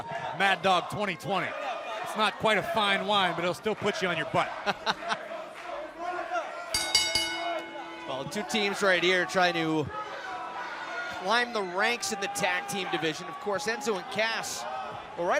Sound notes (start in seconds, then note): 4.5 laughing; 6.7 bell